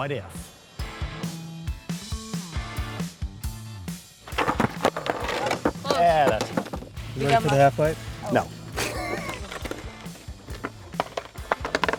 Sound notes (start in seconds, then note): 5.5 upbeat music playing; 6.9 skateboards banging on ground